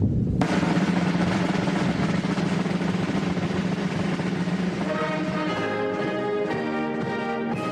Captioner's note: speaking global language